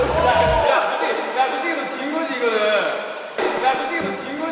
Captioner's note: disgusted